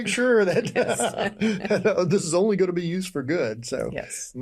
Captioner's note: laughs